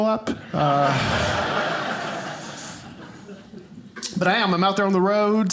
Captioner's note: audience laughing